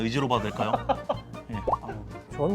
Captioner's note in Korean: 웃음